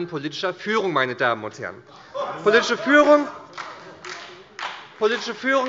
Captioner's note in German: Lachen bei der CDU und dem BÜNDNIS 90/DIE GRÜNEN